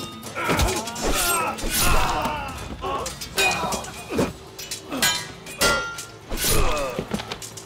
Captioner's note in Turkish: Dövüş sesleri